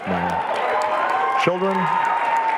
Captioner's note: audience cheering and applauding